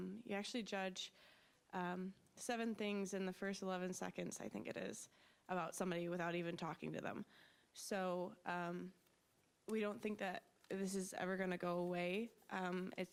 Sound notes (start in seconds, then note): none